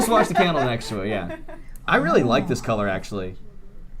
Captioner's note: laughter